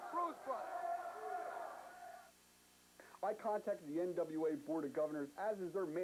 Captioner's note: crowd chatter